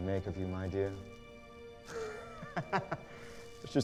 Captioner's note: laughs